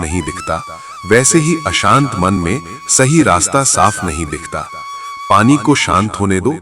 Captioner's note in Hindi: चीखने की आवाज़